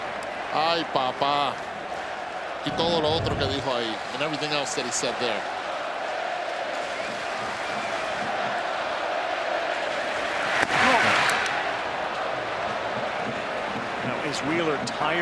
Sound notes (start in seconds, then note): 8.0 speaking spanish